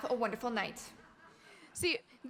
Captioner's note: audience laughing